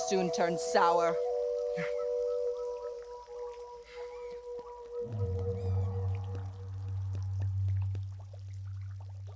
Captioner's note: birds chirping; tribal drums in distance beat